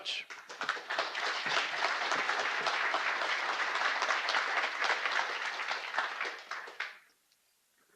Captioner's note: applause